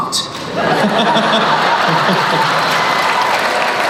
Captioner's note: laughing